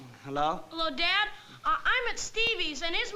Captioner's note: on phone